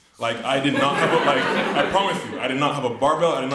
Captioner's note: audience laughs